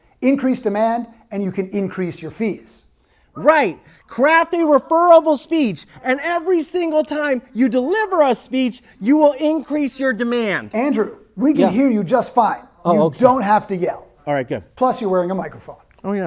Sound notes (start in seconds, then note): 5.3 shouting